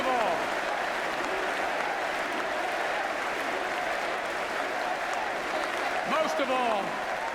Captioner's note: applause and "USA" chants